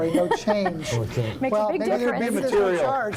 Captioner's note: laughter